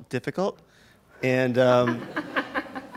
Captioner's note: laughing